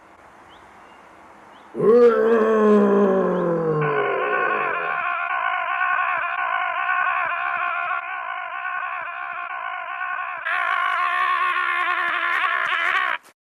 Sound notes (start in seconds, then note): 1.7 dinosaur roar; 3.9 screaming